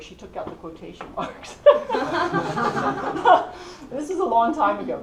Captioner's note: laugh